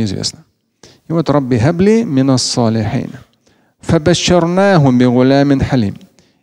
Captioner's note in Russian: говорит на арабском